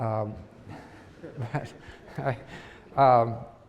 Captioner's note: laughter